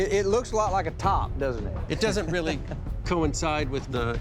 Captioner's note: chuckles